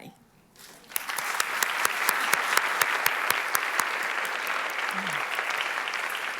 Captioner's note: applause